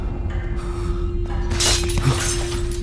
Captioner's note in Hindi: क्लैटर्स